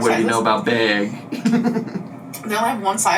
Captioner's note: laughs